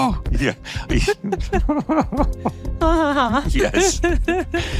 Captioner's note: laughing